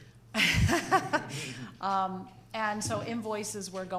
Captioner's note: laughing